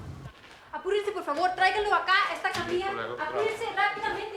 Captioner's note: speaking spanish